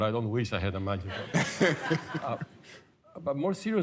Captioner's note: laughter